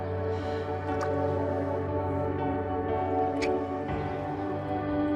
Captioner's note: water splashes; lips smack